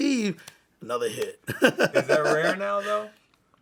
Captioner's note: laughs